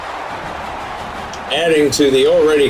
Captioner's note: crowd Noises